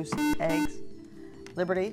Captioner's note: buzzer